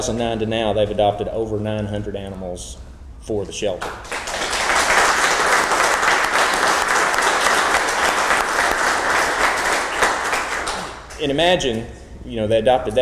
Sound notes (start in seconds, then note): 3.7 clapping